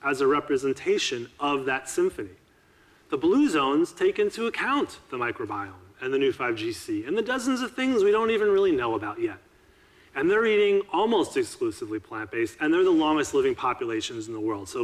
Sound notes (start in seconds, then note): none